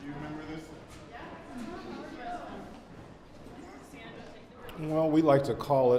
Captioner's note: students talking and murmuring